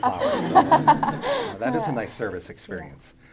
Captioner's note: audience laughing